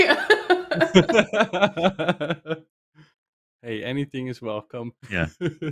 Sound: laughs; laughs

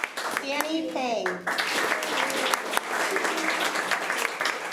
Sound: applause

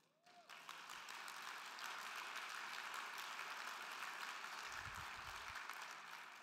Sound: crowd clapping; crowd cheering

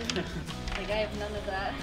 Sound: laughs

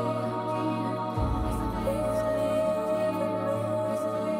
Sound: none

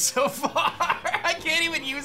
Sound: laughs

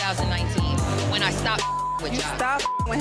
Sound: beep

